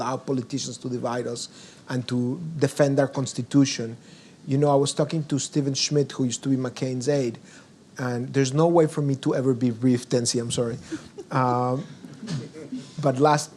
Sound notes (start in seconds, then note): 10.6 giggles; 12.4 audience chuckles